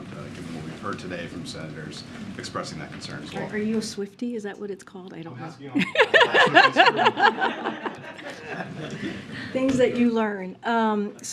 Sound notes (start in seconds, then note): 5.7 laughter